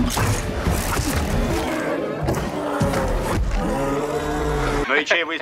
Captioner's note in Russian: Звук выстрела из арбалета и хрип животного